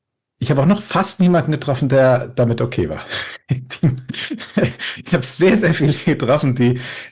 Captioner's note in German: gelächter